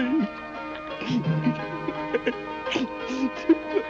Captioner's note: sobbing